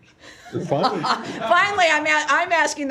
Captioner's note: laughter